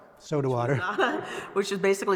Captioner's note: laughter